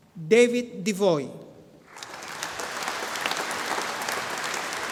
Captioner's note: audience applauding